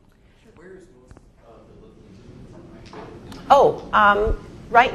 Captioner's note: speaks faintly